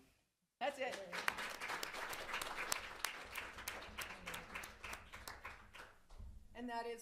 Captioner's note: applause